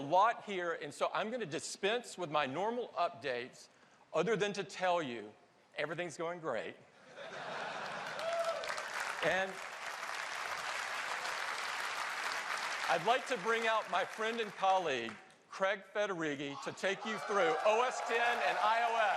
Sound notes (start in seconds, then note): 7.0 laughter; 9.6 applause